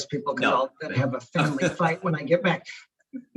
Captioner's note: indistinct conversation